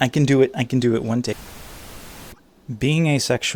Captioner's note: static